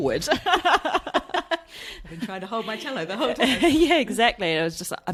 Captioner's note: laughs